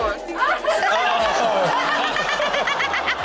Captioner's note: audience exclaiming; chuckling; Chanel laughing